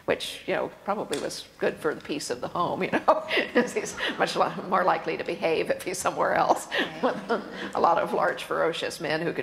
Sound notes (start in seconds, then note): 6.2 laughs